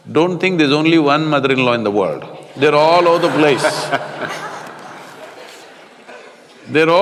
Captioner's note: laughter